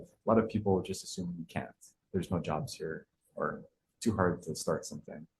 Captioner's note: none